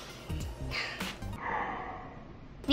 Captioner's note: sigh